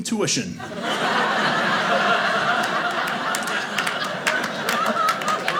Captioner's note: audience laughing